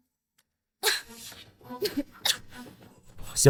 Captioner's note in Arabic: سعال، سعال، همم